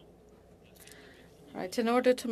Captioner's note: speaking French